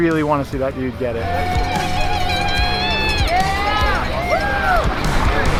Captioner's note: crowd cheering